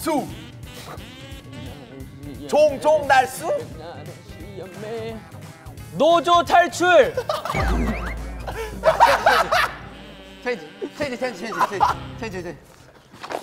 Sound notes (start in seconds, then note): 7.1 members Laugh Out Loud; 9.4 kekekekeke